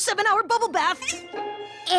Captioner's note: squeak!